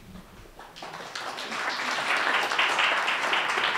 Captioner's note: applauding